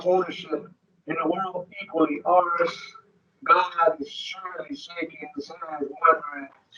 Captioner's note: speaking distorted